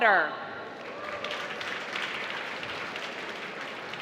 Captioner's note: applause